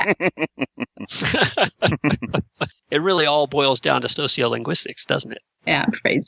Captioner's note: laughter